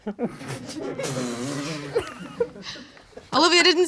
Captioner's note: crowd laughing